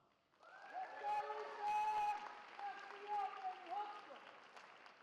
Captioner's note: cheering